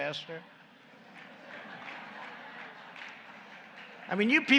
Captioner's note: laughter and applause